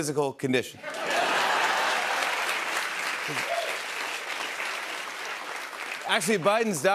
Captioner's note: laughter and applause